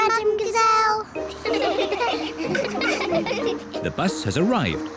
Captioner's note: all giggle